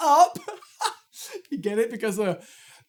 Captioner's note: chuckles